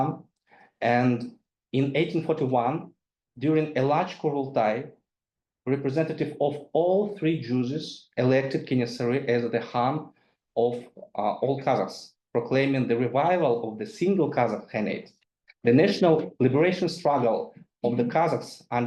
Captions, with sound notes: And in 1841, during a large (speaks in foreign language), representative of all three Zhuzes elected Kenessary as the khan of all Kazaks, proclaiming the revival of the single Kazakh Khanate. The national liberation struggle of the Kazakhs